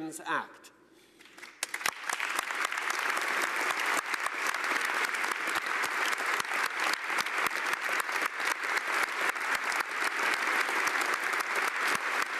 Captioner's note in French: Applaudissements